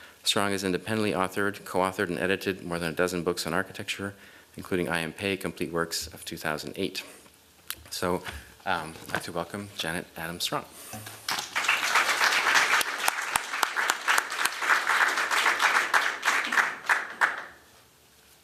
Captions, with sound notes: Strong has independently authored, coauthored, and edited more than a dozen books on architecture, including I.M. Pei complete works of 2008. So I'd like to welcome Janet Adams Strong. [applause]